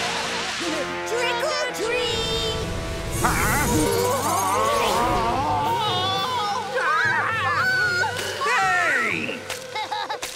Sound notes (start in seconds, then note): 6.7 screaming; 9.5 laughing